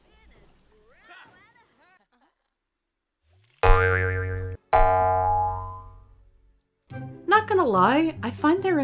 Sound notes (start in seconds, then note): 3.6 boing!